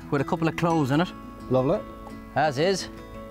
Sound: pat

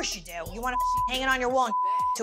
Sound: beep

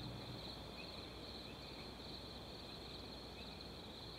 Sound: crickets chirping

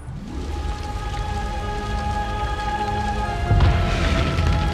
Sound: sound of fire and explosions

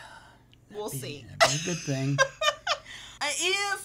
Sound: laughing

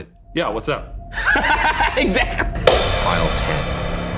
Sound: laughing

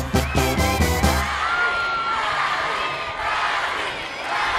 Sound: público coreando

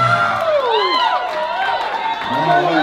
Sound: crowd cheering and clapping

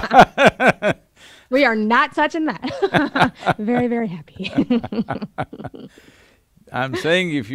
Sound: both laugh; both laugh

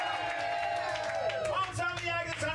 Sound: audience cheering

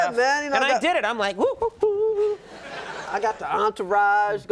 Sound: hums

